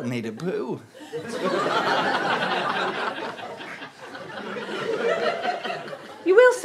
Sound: audience laughter

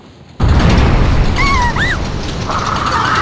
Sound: panicked cry

